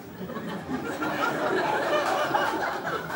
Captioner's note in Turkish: Kahkaha sesleri